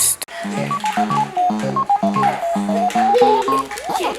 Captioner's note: cartoony blooping